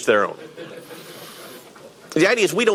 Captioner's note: audience laughing